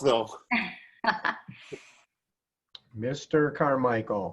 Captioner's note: laughs